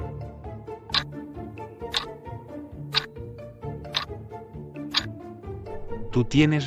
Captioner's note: FX - Clock Tick